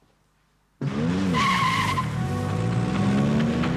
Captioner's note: tyres screech